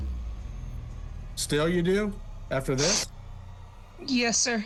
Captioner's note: sniffles